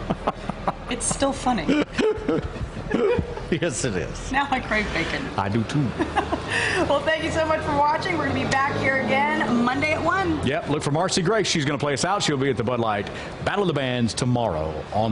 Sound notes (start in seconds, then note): 5.9 laughter